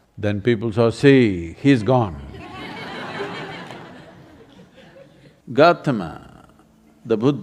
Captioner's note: laughter